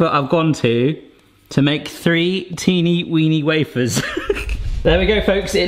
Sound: laughs

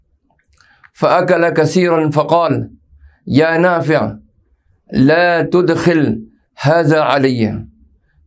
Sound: arabic

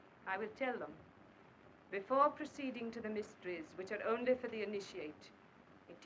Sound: none

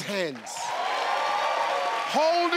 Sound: crowd cheers

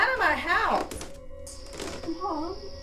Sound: stairs creak

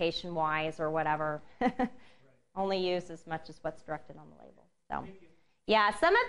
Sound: laughs

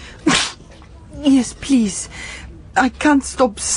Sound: she sneezes

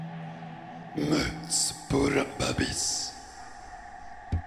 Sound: The Hunter speaks bug in a scary voice

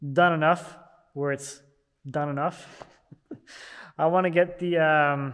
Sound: chuckling

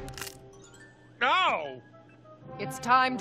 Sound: spine cracking

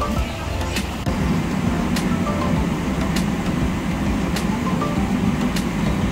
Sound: airplane engine humming

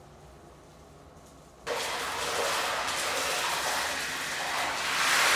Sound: bubbling Liquid Sound; loud sizzling sound

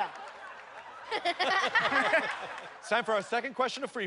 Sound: laughter

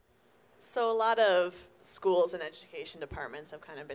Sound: voiceover

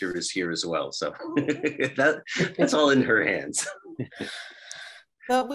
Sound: laughs

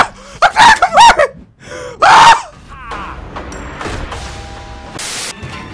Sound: screams; static

